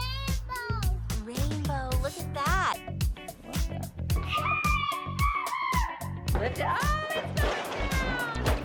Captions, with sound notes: - Rainbow. - Rainbow, look at that. (upbeat background music) (kids screaming) Oh it's coming down.